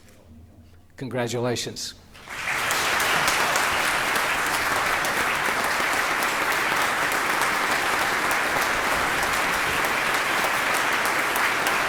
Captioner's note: applause